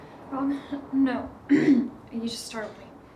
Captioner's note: clears throat